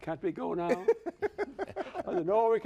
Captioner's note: laughs